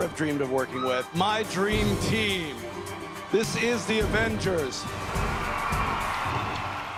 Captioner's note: audience cheers